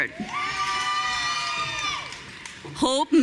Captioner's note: audience cheering